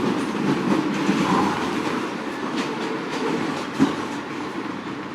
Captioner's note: subway car rattling